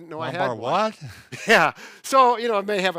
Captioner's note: both laugh